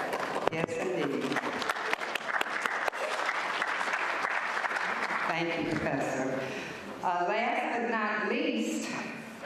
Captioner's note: applause